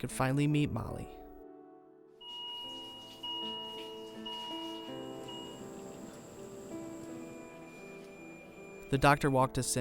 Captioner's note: hospital sounds